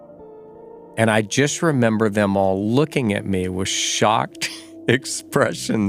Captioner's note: laughs